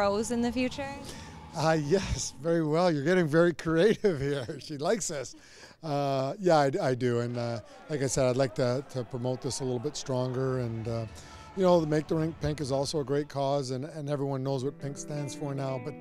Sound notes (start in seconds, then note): 3.6 laughing